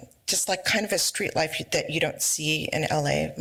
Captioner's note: none